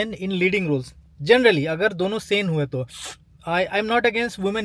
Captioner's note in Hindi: नाक से की जाने वाली आवाज़